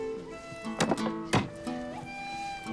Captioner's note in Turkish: Satır sesi